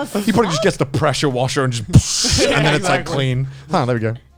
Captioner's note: wooshing sounds